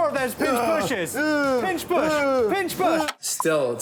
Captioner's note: mock grunts; clicks